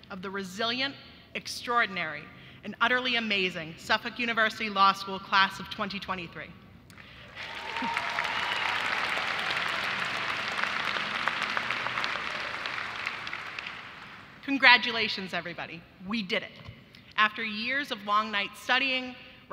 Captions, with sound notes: of the resilient, extraordinary, and utterly amazing Suffolk University Law School class of 2023. (audience applauding) Congratulations, everybody. We did it. After years of long nights studying,